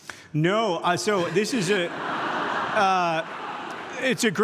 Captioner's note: audience laughs